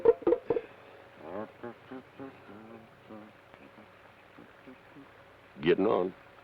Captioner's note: Carney hums melodically